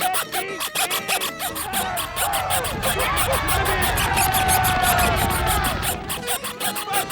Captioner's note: squeaking; screaming; squeaking